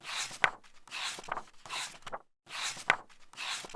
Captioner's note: pages turning